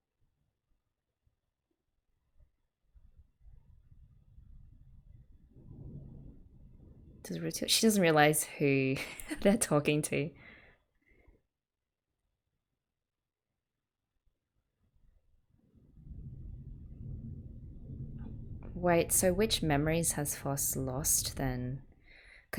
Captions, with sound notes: She doesn't realize who [laughs] they're talking to. Wait, so which memories has Phos lost, then?